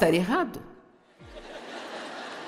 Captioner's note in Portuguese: audiência ri